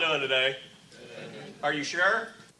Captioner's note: audience murmurs